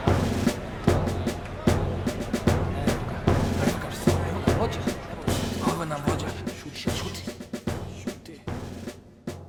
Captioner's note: crowd Chatter